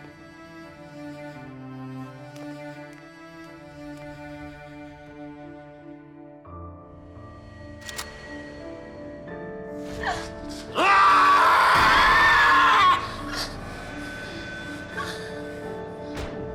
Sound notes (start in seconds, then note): 6.7 soft piano music; 10.5 yells